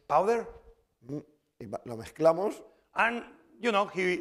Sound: speaking spanish

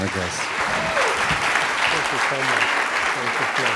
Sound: cheers and applause

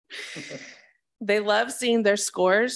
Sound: laughs

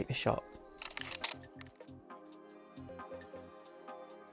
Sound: shutter clicking

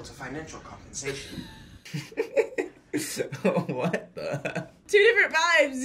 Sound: laughs

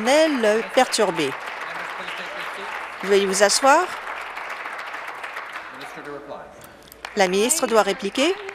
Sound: some Applause

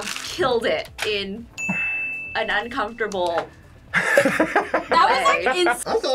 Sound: laughs

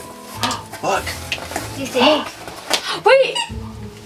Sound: gasps

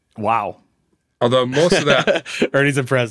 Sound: laughing

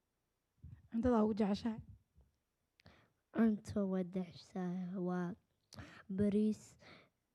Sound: speaking Somali

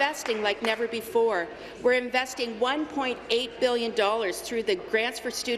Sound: applause

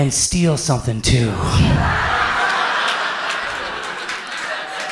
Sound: audience laughs

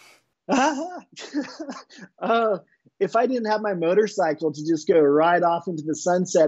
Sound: laughing

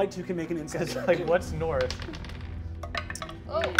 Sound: dice rolls

